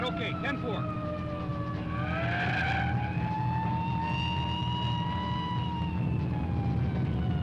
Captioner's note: siren blaring; tense music